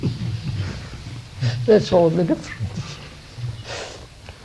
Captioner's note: laughs